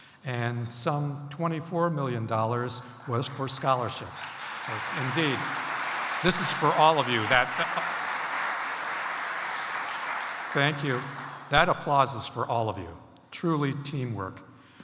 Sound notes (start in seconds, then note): 4.5 audience applauds